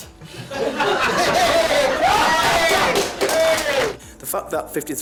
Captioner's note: people laughing and applauding